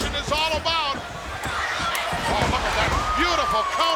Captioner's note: body thudding